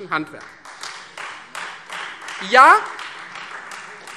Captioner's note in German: Beifall Freie Demokraten